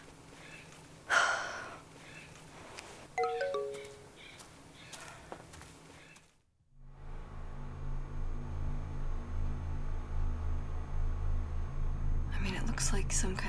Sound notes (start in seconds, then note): 1.1 sighs; 3.2 phone chimes; 6.4 computer droning